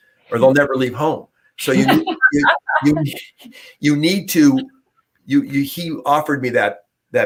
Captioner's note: laughter